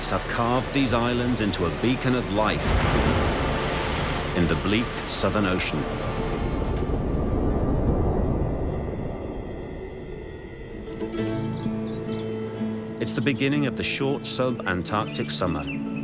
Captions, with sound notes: have carved these islands into a beacon of light (waves crashing) in the bleak Southern Ocean. (bright music) It's the beginning of the short subantarctic summer,